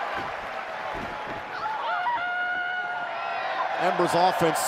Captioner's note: crowd cheering